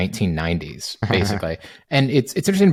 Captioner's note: chuckling